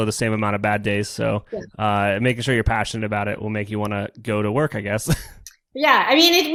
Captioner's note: laughs